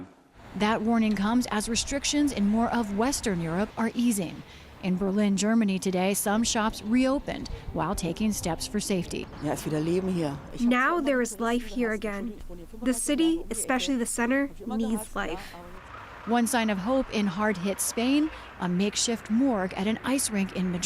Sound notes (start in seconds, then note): 10.6 through translator